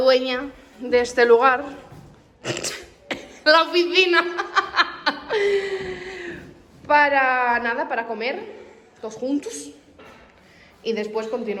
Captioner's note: laughs